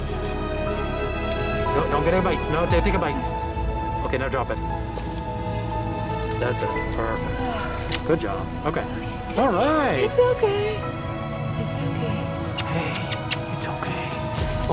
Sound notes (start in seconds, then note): 7.1 sigh of relief; 12.4 kissing sounds